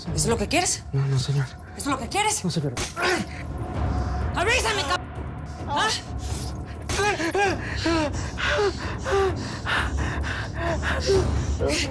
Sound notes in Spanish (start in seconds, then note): 6.6 Gemidos